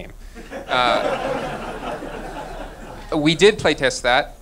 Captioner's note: laughing